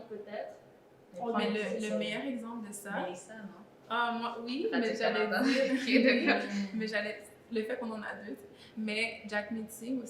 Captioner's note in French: rires